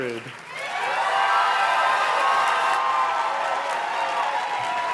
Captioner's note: audience cheers and claps